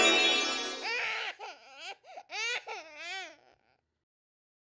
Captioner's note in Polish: płacz dziecka